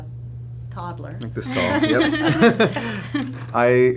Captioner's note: laughing